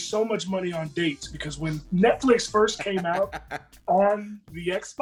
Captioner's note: laugh